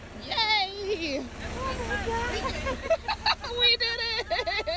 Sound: laugh

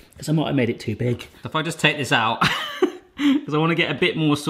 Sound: laughs

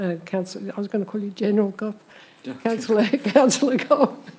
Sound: laughs

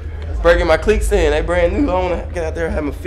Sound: voiceover

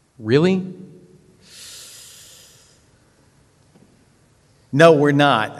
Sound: inhales

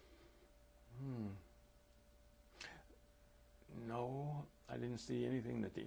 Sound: pauses for 3 seconds

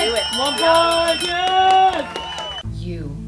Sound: bell rings

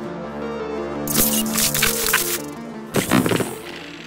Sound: logo buzzing

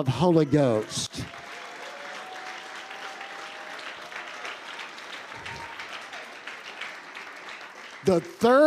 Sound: congregation applauding

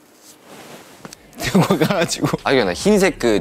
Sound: scurry

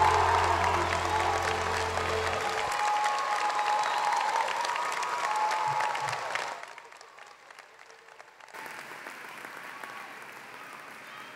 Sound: applause

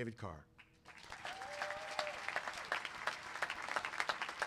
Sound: clapping

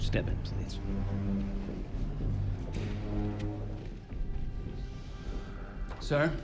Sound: dramatic music; footsteps tapping; dramatic music

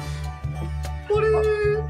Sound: deep breath

